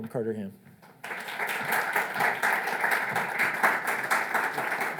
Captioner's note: audience applauds